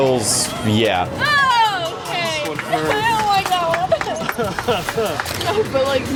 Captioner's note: laughs